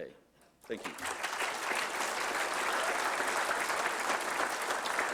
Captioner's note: applause